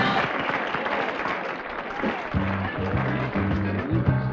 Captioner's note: crowd clapping